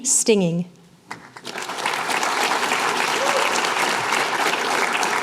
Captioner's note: applause